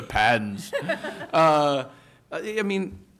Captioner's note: chuckle